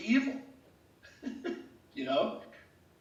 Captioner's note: laughs